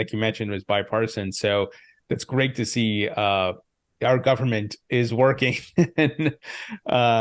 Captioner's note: chuckles